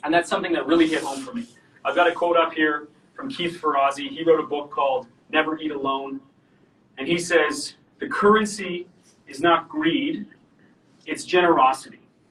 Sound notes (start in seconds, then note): none